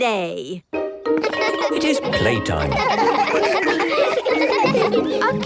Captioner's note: laughter